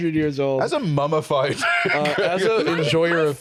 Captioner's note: laughs